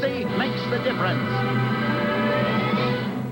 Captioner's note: spaceship sounds